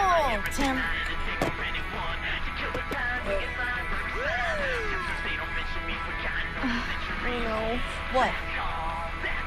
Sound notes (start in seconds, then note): 4.1 siren wails